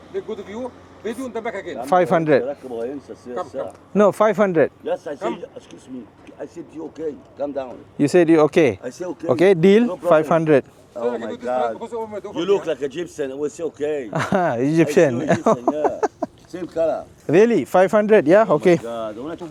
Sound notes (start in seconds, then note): 2.4 speaking Arabic; 14.0 laugh; 19.2 speaking Arabic